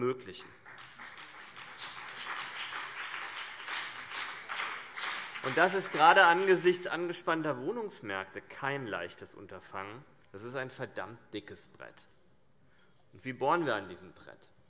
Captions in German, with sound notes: [Beifall BÜNDNIS 90/DIE GRÜNEN und vereinzelt CDU] Das ist gerade angesichts angespannter Wohnungsmärkte kein leichtes Unterfangen. Das ist ein verdammt dickes Brett. Wie bohren wir an diesem Brett?